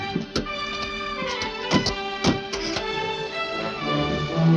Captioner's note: doors banging